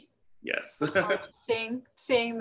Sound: laughs

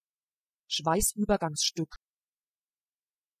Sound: fast Pronunciation

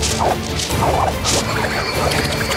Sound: dramatic music; paper whipping; stars whirring

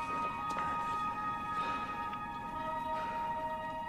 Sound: panting

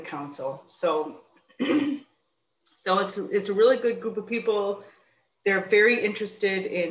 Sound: clears throat

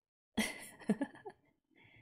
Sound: laughs

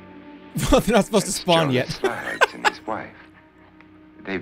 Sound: laughs

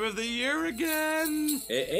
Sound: sleigh bells jingle

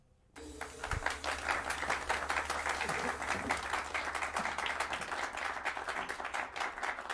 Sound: applause

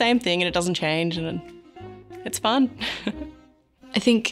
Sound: laughs

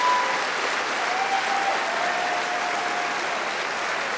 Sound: cheering & Applause

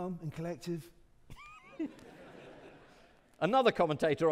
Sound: audience laughing

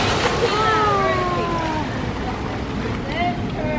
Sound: oohs and ahhs

